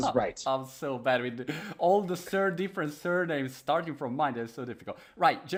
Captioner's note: laughing